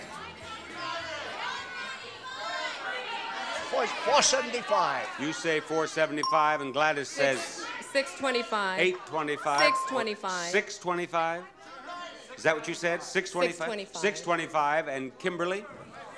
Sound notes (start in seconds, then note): 0.1 audience shouting; 6.2 bell ringing; 9.6 bell ringing